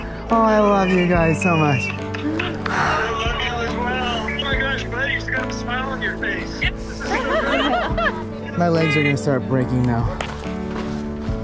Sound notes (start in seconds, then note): 6.9 family laughing